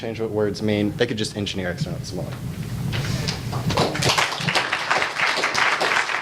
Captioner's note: audience applauds